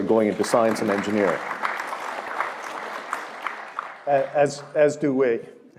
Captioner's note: applause